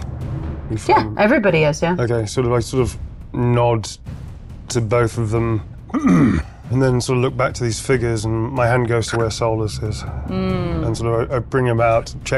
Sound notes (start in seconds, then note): 5.9 clears throat